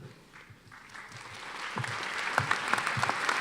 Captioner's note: applause